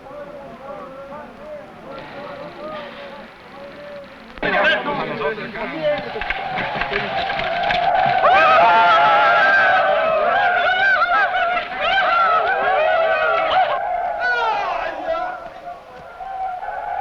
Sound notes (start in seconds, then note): 4.4 men shouting; 6.5 tribal war shouting